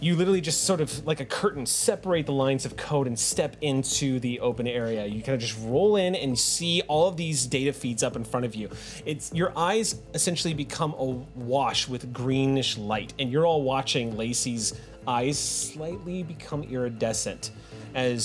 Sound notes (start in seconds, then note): none